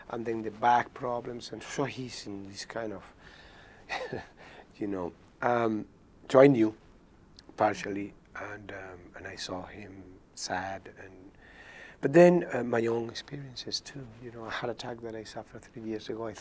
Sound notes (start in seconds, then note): 3.9 chuckles